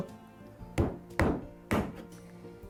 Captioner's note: hammering sound